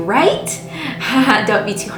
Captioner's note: laughing